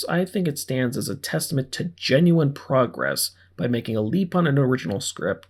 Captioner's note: none